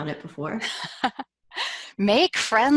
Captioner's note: laughs